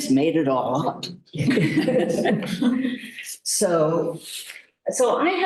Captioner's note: laughter